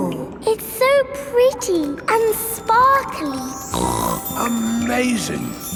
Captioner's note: snorts